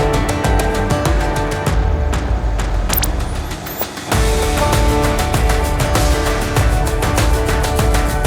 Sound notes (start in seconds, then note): 2.9 electronic noise; 2.9 birds